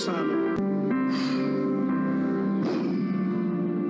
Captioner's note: blows